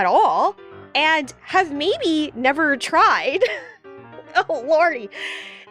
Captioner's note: laughs